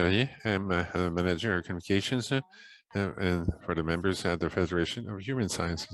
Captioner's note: Parler français